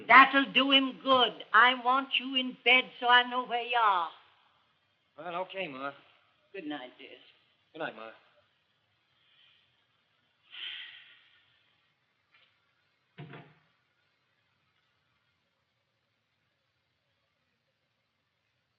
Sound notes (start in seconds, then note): 10.9 sighs; 13.2 door shuts